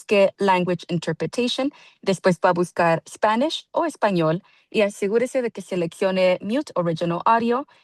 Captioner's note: speaking Spanish